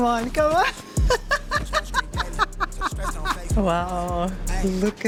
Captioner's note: laughs